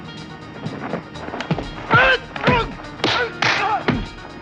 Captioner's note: both grunting